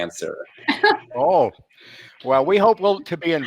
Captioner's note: laughing